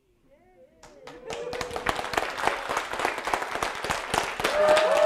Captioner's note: audience applauding